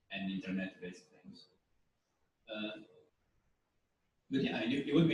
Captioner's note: pause